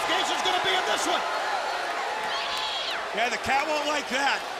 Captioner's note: crowd cheering